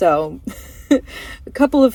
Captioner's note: laugh